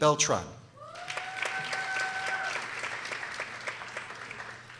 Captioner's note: people applauding